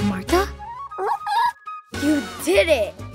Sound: Vivo squeaks

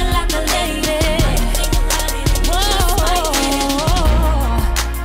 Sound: vocalizes

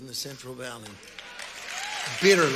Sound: congregation cheering and applauding

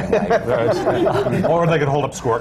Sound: laughter

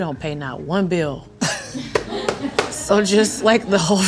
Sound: laughing

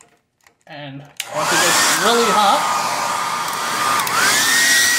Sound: hair dryer turns on

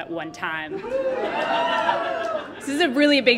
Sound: cheers from audience

